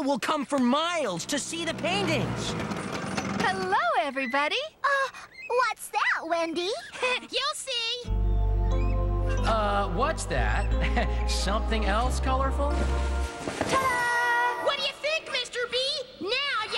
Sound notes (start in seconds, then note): 5.0 gasp!; 10.6 chuckling